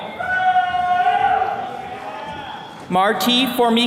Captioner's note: attendees cheering